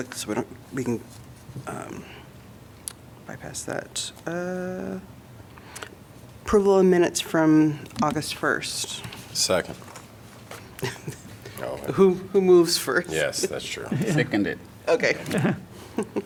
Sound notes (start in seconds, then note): 10.8 laughter; 15.2 laughter